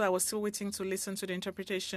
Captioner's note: speaking French